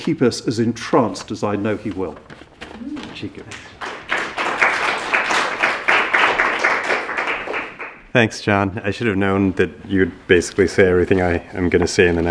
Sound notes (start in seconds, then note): 3.4 clapping